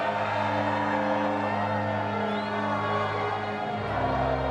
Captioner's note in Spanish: algarabía de fondo